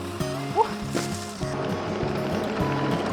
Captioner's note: water splashing